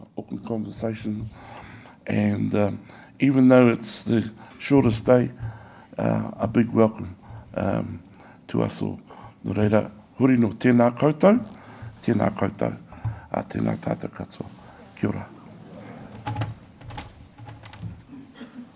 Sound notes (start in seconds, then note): 10.1 speaks in Maori